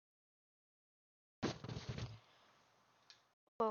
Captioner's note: bump